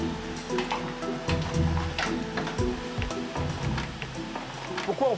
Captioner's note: soft music; oysters clattering; speaking in foreign language